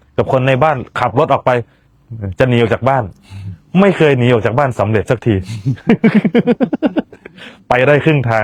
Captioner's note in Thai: เสียงหัวเราะ